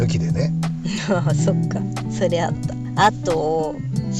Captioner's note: laughs